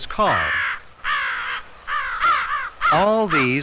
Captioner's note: loud cawing